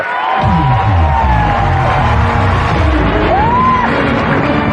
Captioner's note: cheering and applause; dramatic music